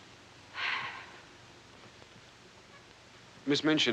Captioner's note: sighs